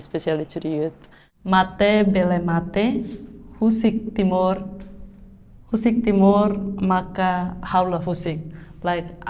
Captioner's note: Reading in Tetun